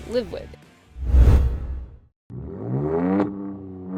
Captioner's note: transition whooshing; car engine roaring